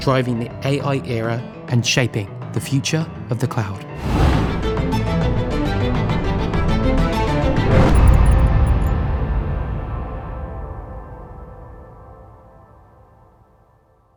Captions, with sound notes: driving the AI era and shaping the future of the cloud. (transition whooshing) (upbeat music) (transition clacking)